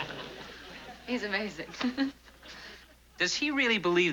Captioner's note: laughs